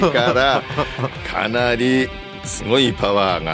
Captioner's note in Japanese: 笑い